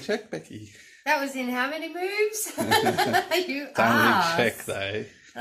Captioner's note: laughter